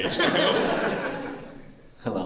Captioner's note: laughter